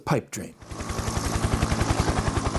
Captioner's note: helicopter sounds